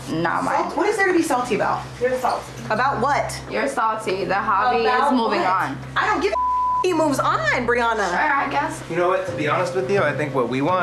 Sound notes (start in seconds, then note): 6.3 beep